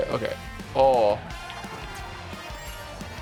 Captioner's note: car engine roaring